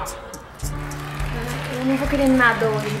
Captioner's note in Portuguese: aplausos